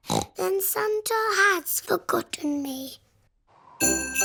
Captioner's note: snorts